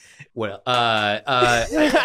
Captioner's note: group laughing